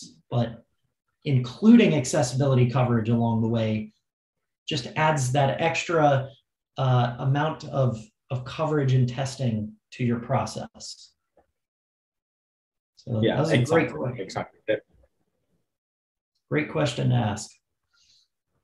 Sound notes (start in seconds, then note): none